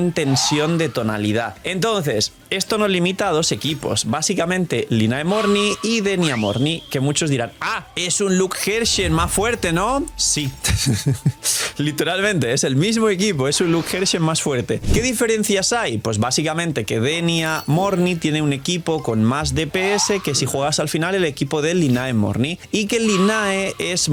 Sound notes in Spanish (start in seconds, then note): 10.6 risas